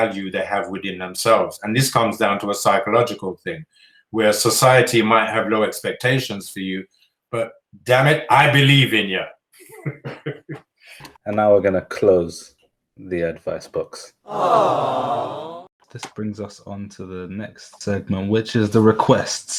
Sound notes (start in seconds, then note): 9.6 laughter; 13.9 disappointed sounds